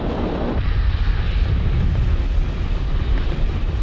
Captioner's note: volcano expelling fumes